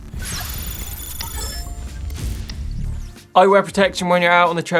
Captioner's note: digital computer sounds